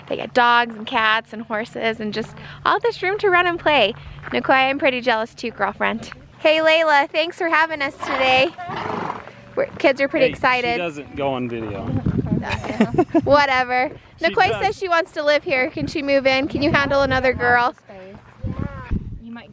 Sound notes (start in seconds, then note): 12.4 laughing